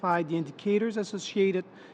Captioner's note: speaking French